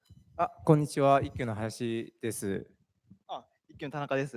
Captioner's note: speaking japanese